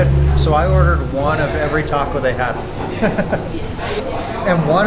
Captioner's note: laughs